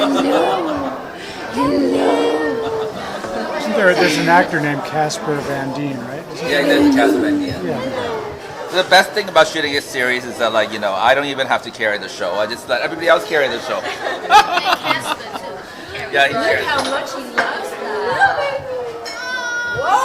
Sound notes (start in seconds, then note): 13.8 all laughing